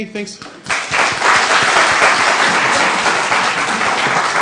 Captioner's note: applause